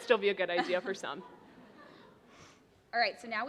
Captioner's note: laughter